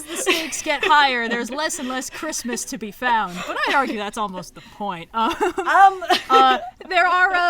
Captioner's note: laughs; laughs